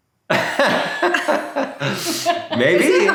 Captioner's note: laughing